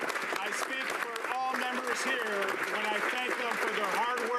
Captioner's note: applause